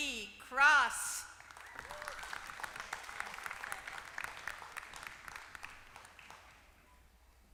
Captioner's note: applause